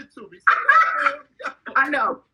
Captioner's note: laughing